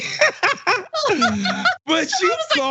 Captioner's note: laugh